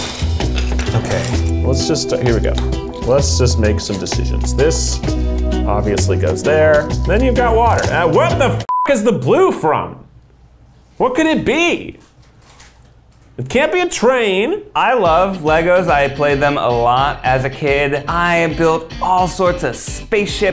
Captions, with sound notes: Okay. (whimsical music) - Let's just, here we go. Let's just make some decisions. This obviously goes there, then you've got water. And what the (beeping) is the blue from? What could it be? It can't be a train. - I love LEGOs, I had played them a lot as a kid. I built all sorts of spaceships,